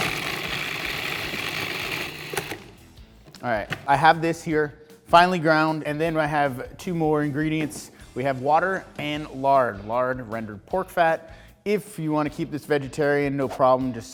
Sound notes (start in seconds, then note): 0.0 processor whirs